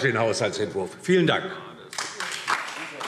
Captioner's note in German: Beifall DIE LINKE